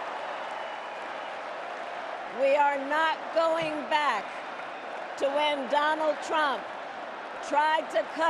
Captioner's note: cheers and Applause